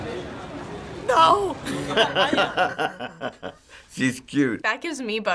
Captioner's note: laughs